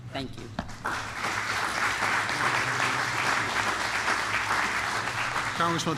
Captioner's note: applause